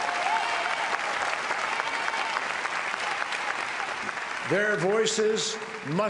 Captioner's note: applause